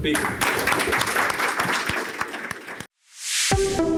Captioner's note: applause